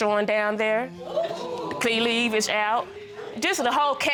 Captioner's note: audience exclaiming